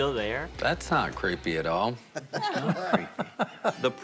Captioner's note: all chuckle